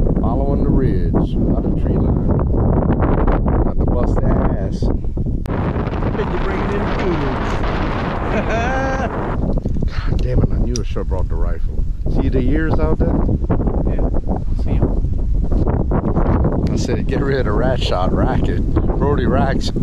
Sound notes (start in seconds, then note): 5.0 wind noise